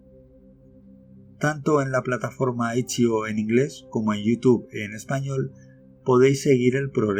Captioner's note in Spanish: en español